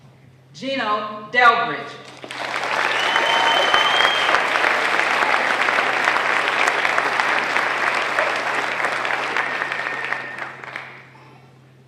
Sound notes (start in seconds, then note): 2.1 applause